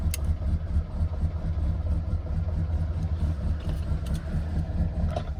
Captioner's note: car keeps on running